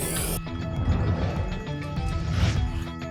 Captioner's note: ticket dispenser sound; alarms; whoosh; scratching sounds; alarms